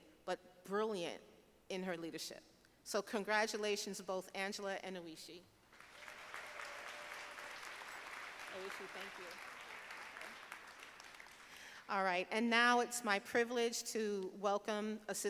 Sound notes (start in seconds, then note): 5.7 audience applauding